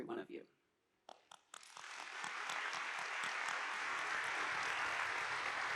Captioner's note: audience applauding